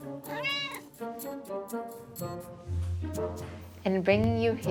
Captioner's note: Holden meows